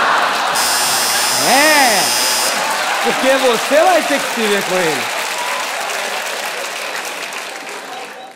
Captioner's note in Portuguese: campainha